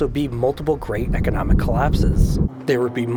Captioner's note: distant rumbling